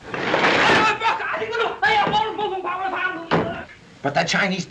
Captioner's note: screaming in Chinese